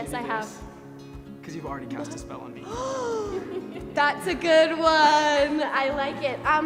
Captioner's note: gasps